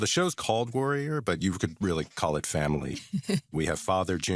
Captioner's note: chuckles